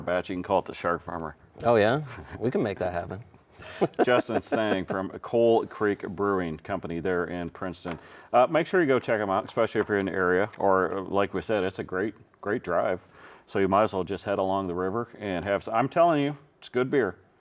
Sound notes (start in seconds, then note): 3.6 chuckling